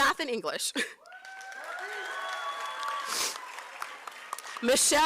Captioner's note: applause